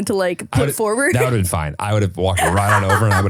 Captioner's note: laughing